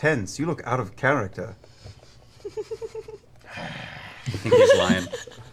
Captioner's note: growls